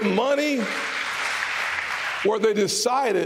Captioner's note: applause